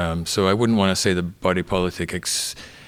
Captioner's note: none